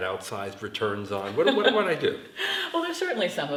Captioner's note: laughs